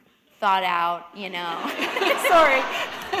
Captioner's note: laughter